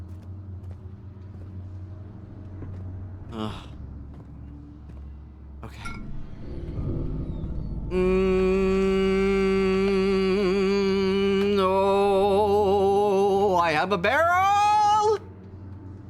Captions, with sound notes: Ugh. Okay. [Dull boom] Mmmmmm ("Mmmm"ing with vibrato) (Singing) Oooohhhhhhh I have a barrel!